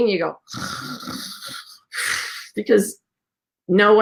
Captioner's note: snores